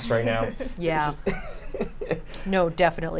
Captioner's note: chuckles